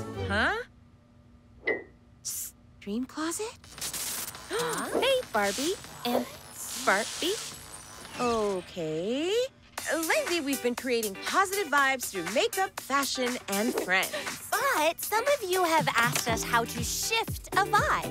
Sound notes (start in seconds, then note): 3.2 electricity crackling; 3.9 gasping